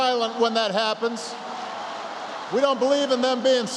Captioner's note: applause